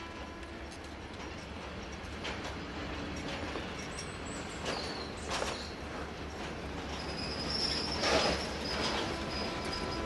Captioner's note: train horn honking; train passing